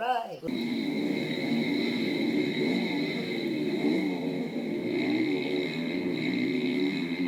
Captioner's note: dirt bike engines